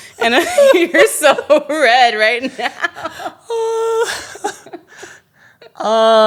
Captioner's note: both laughing